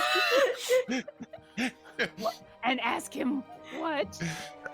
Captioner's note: actor laughing